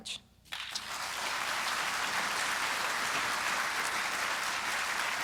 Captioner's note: audience applauding